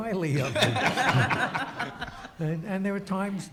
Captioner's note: audience laughs